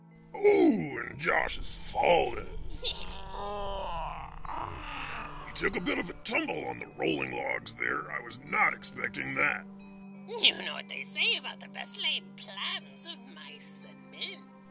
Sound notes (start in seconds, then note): 2.6 snickers; 2.7 grunts